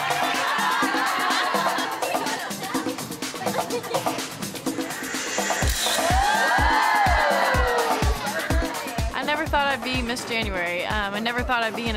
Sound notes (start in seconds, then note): 0.1 laughing; 5.9 all exclaim